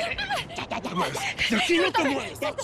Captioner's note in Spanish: Exclamaciones